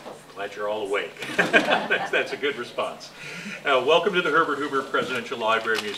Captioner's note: laughter